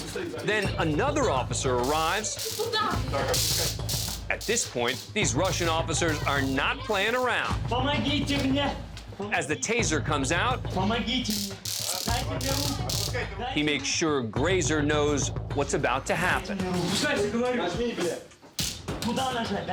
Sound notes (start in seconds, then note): 11.2 taser clicking; 16.8 speaking Russian